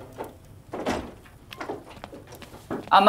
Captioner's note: Door opening